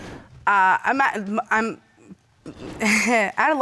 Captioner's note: stammers; chuckles